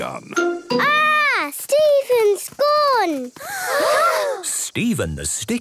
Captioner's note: gasps